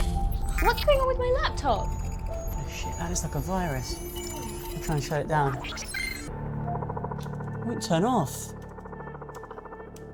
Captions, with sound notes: What, what's going on with my laptop? - Oh, shit that is like a virus. I'm gonna try and shut it down. (computer beeping and whirring) Won't turn off.